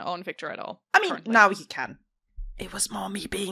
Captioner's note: whispers